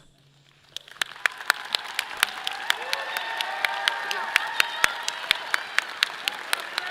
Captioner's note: audience applauding; clapping